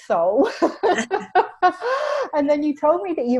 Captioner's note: laughs